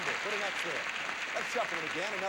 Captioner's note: audience applauding